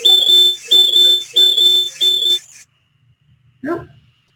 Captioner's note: alarm sounding